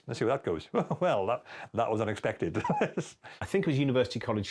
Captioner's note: laughs